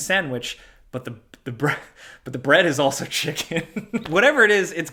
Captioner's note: laughs